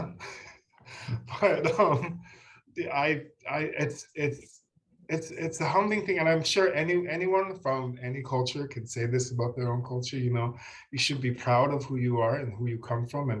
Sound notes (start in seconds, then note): 1.2 laughs